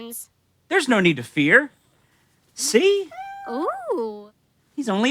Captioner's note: exclamations